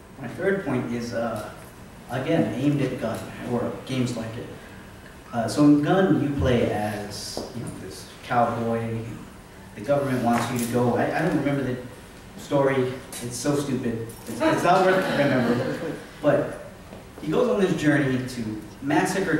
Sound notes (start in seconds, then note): 14.4 laughter